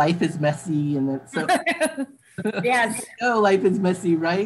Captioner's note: laughing